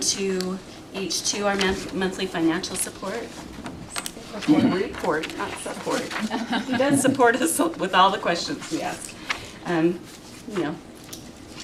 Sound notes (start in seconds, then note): 3.7 clears throat